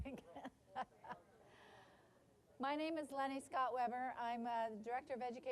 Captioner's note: laughing